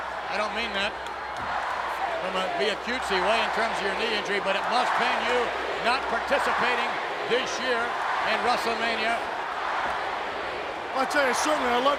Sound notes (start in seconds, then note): 9.2 audience chanting